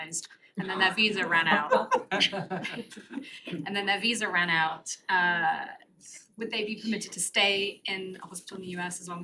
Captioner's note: laughter